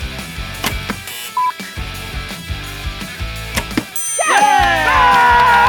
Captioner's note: buzzing